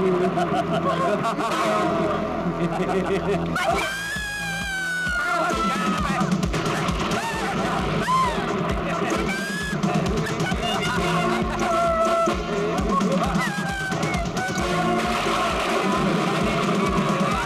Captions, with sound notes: (Laughs) Help. (Screams) - Don't let her escape. Help. Idiots, let go of me. (Thunder crashing)